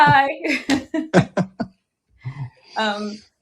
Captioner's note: laughter